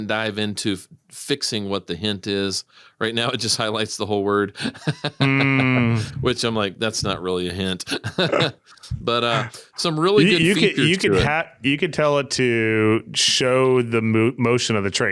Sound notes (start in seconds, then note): 4.6 laughing; 7.8 laughing